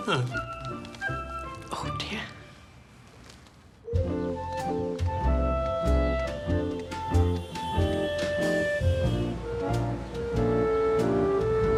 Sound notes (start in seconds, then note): 0.6 man mutters; 3.8 light orchestral music